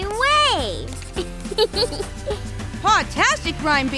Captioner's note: chuckles